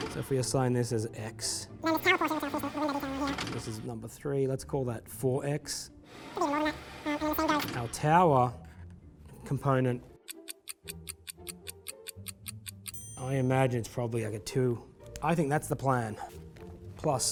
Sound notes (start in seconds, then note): 2.1 speaking quickly; 5.6 speaking quickly; 10.2 alarm clock ticking; 12.9 bell dings